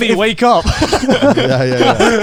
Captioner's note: laughing